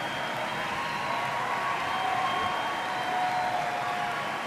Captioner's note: cheers and applause